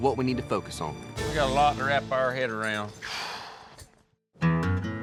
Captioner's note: sighs deeply